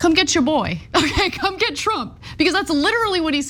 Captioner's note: laugh